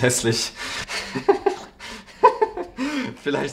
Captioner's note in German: lacht